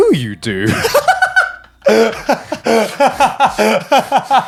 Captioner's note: all laughing